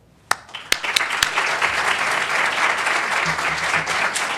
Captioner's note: applause